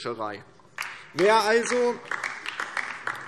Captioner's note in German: Beifall DIE LINKE